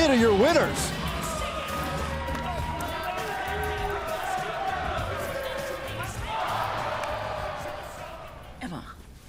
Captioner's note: crowd cheering